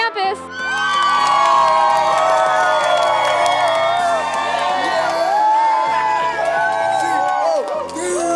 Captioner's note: cheering